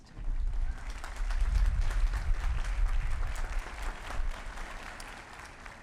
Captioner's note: applause